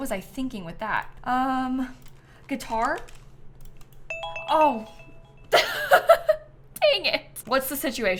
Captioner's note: bell chimes